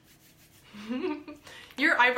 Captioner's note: chuckles